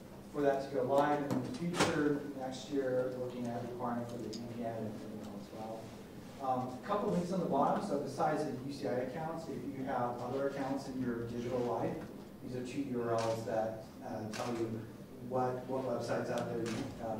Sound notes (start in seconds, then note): 4.5 rustling drowns out speaker